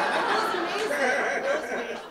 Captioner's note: laughter